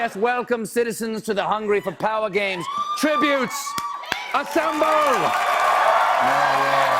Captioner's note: cheers and applause